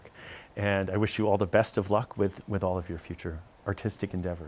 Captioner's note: none